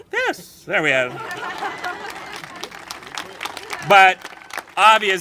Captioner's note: congregation applauding and laughing